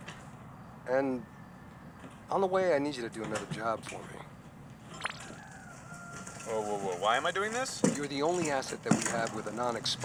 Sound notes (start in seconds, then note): 5.0 digital window opening